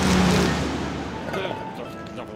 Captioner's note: grumbles